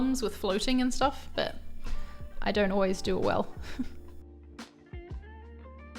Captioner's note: chuckles; gentle music